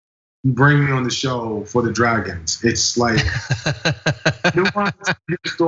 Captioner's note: laugh